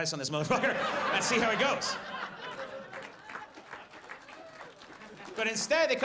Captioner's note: audience laughs